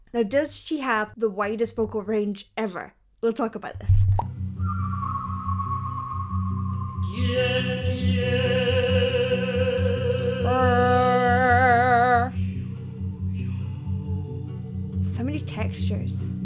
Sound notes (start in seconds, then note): 5.1 continues singing; 10.6 mimicking the tone; 14.1 continues singing